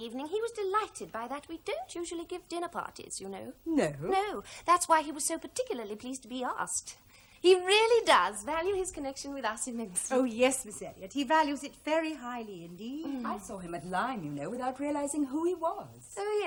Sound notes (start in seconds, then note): none